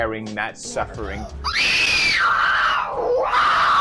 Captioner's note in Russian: крик страдальца